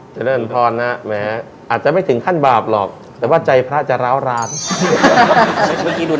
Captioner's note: laughing